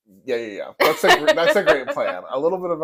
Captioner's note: laugh